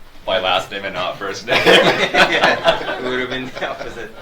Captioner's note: audience laughs